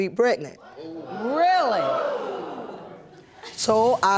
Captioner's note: audience exclaims